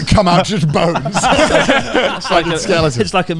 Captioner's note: laughs loudly